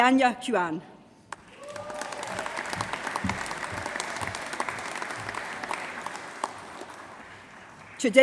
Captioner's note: applause